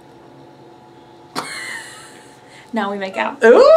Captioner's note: laughs